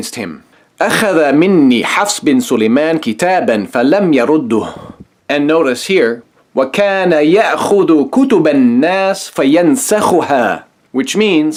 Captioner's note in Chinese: 念阿拉伯语